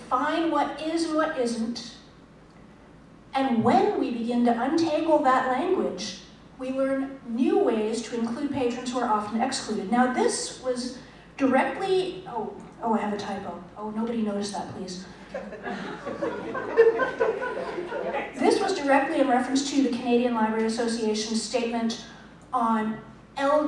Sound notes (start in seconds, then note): 15.2 laughter